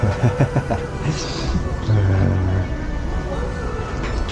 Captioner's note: laughing